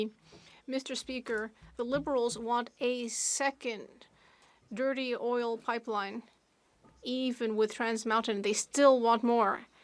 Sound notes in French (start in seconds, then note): 1.9 voix de l'interprète